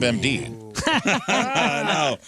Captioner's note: laughing